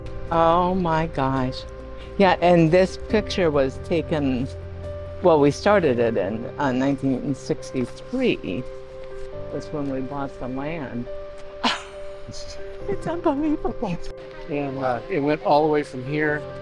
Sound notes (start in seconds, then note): 11.6 laughing